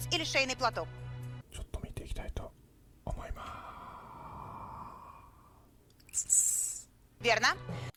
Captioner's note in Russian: "Я бы хотел на это чуток посмотреть" шёпотом